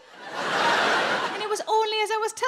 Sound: audience laughing

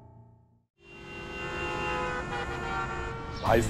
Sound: traffic noises

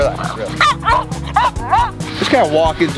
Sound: Winston barks

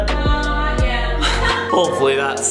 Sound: laughs; dad chuckles

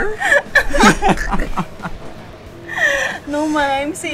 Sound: laughing

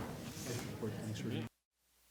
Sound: gavel

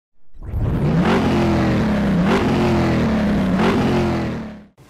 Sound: engine revving loudly

